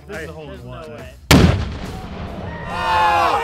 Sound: explosion; yelling and laughing

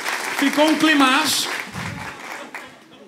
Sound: applause

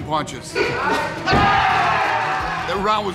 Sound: body hitting the mat

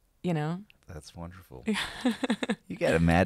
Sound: laughing

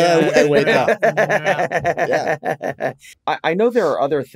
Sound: laughs

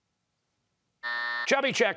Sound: buzzer

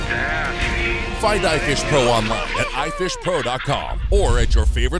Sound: voiceover

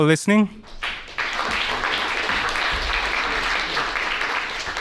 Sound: attendees applauding

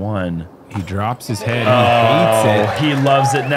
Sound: cheering

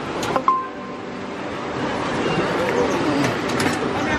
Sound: machine beeps

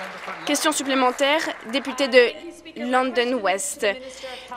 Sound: applause

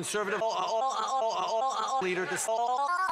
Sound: impersonates an opera singer for no reason

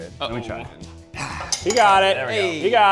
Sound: exclaims

